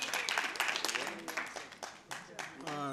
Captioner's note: applause